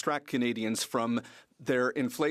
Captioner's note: speaking French